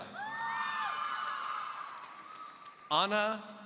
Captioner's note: audience cheering